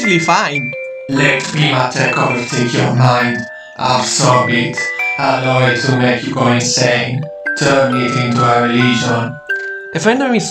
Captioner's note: echoing